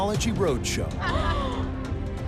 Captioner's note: gasping